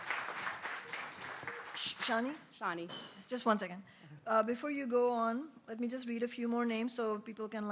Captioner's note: applause